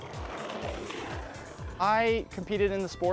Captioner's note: luge sliding